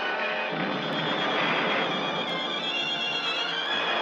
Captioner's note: lasers blasting